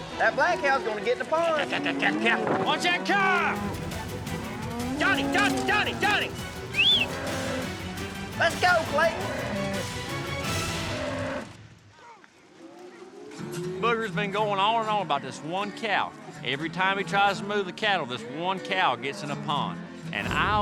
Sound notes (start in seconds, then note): 6.7 whistles; 10.8 cow moos